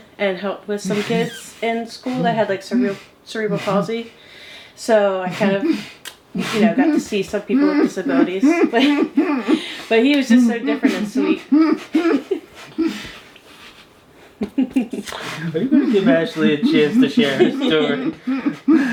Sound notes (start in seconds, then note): 7.4 laughing; 18.6 laughing